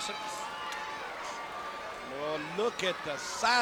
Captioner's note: audience cheering